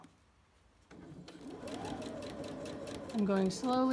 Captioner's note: sewing machine running